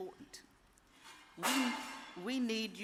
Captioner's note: dish shatters